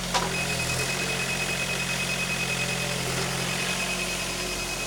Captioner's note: machine beeping